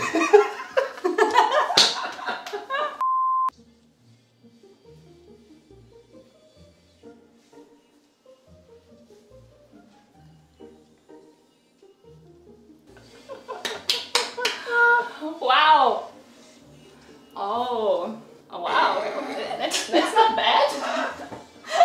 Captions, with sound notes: (laughing) (long beep) (upbeat pop music) - Wow! Ohh. Wow. That's not bad?